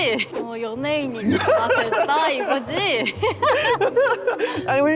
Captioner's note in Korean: 꺄르륵